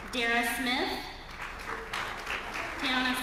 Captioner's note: applause